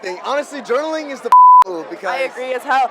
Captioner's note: beep